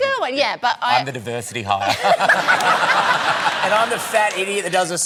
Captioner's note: laughter